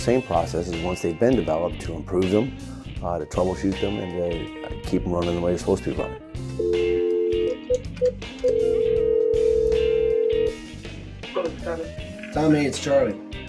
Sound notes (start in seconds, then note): 8.4 line ringing